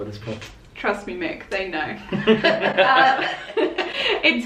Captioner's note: laughter